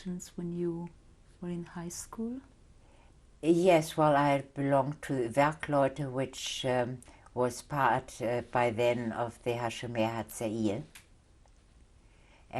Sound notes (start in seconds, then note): 5.5 german